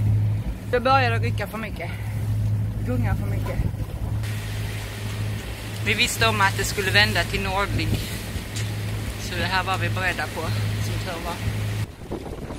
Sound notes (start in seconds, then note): 8.3 wind